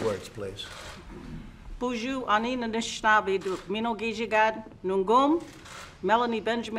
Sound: speaks in Ojibwe

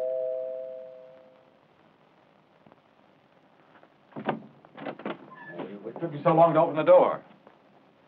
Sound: door bell rings

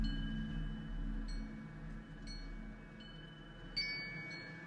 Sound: wind Chimes Jingling

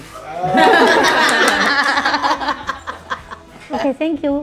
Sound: laughs

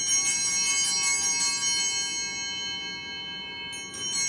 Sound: bell ringing

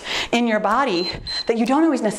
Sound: timer beeps

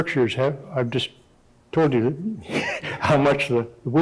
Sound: chuckling

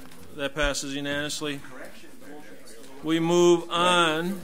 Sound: overlapping chattering

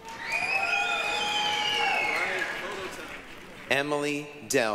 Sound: applause, cheering

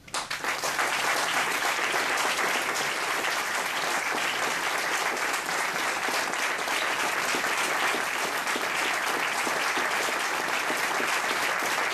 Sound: applause

